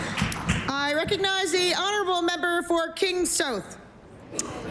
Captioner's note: applause